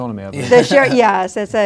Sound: laughing

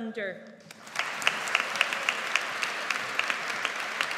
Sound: audience applauds

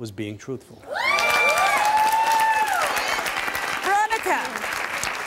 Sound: audience applauding

